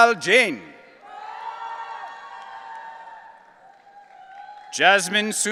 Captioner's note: audience cheering